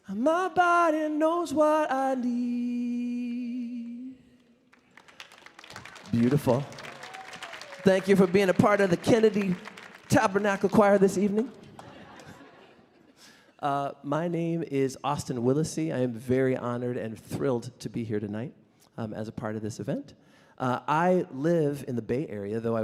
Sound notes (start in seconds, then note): 4.7 audience applauding